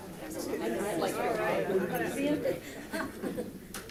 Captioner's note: crowd chatting